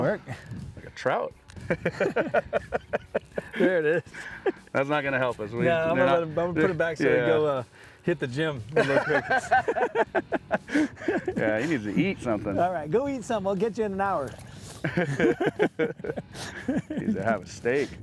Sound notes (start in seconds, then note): 8.7 both laughing